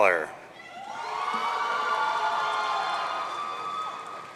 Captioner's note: audience cheering